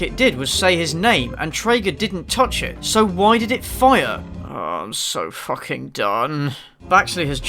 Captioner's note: groans